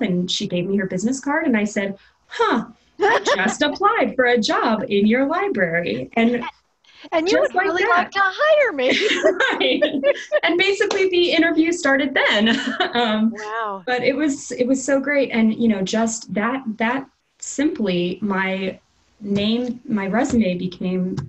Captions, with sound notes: and she gave me her business card and I said, "Huh. I just applied for a job in your library." And just like that. >> And you would really like to hire me! [ Laughter ] >> And basically the interview started then [laughs]. >> Wow. >> But it was so great and, you know, just that simply my resume became, you know,